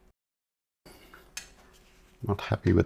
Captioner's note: silence